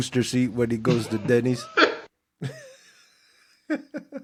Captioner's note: laughing